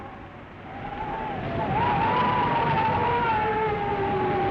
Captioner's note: wind howling